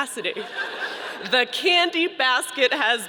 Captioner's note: audience laughing